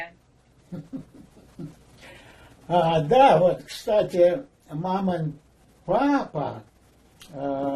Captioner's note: laughing